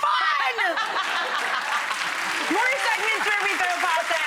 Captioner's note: audience applauding